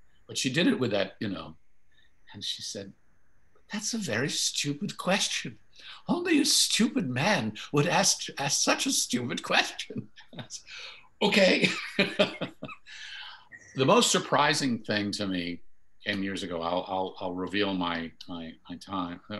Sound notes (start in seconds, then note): 9.6 chuckles; 11.3 laughing